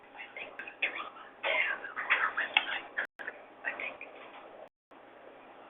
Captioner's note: woman whispers inaudibly